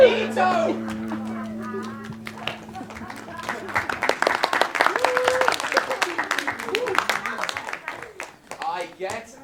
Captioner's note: applause